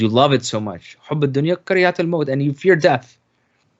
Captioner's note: speaking in foreign language